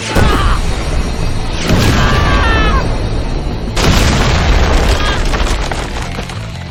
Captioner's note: dramatic music; explosions booming; woman yelling